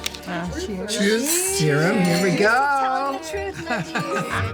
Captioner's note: laughs; glasses clinking